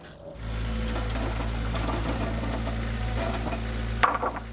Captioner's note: skid-steer whirring; wood clatters